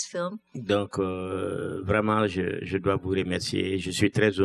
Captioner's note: speaking french